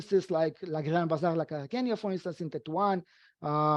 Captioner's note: speaking foreign language